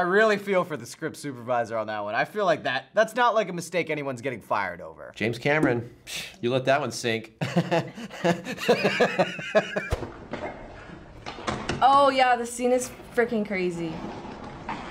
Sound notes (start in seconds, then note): 6.8 scoffs; 7.4 laughs